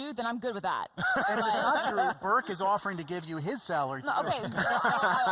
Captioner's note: laughing